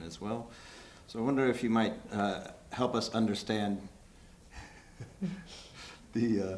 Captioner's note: chuckles